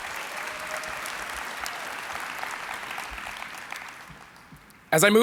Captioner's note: applause